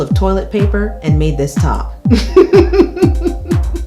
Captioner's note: laughs